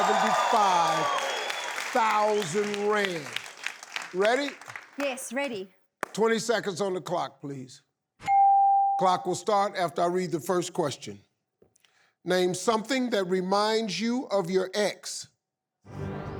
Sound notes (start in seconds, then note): 0.0 audience cheering; 0.0 audience applauding; 8.3 bell chiming; 15.9 intense music